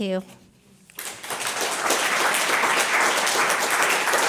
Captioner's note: applause